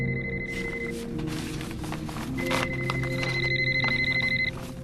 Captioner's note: paper rustling